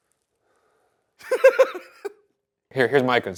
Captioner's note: Ryan laughs